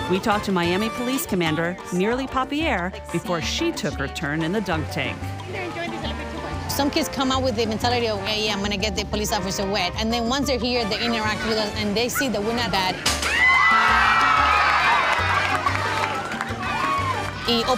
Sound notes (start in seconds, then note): 13.0 ball hits target; 13.2 screaming; 14.2 clapping; 14.3 water splashing